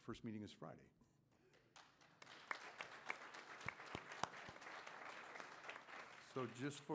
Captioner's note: applause